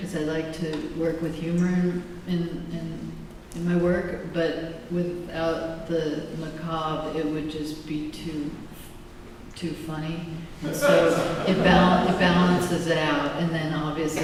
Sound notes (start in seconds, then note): 10.7 laughter